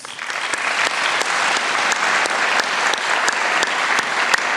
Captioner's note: applause